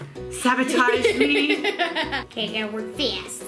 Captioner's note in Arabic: يضحك